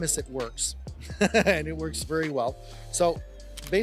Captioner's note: chuckles